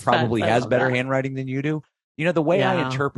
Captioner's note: laughs